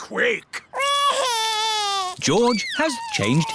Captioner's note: crying